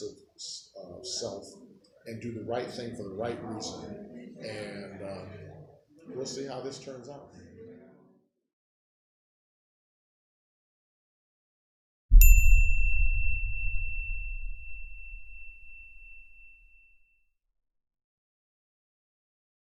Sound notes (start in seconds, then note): 12.2 bell rings